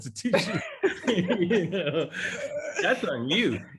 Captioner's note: laugh